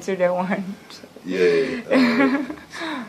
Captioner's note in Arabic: ضحك